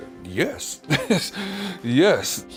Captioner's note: laughing